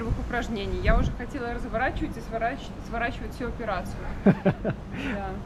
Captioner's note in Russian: смех